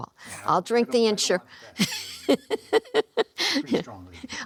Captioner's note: laughter